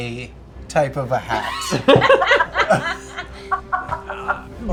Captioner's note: laughter